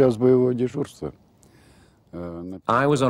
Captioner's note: speaking Russian